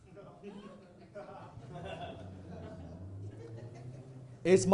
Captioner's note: audience laughing